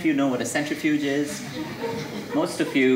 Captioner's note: audience laughing